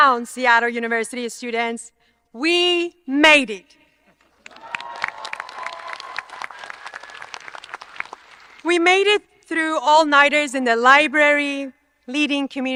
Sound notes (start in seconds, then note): 4.4 audience applauding and cheering